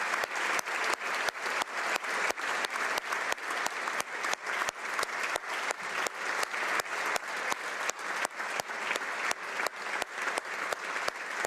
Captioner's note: applause